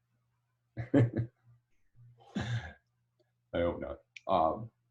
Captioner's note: chuckles